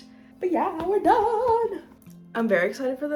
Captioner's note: excitedly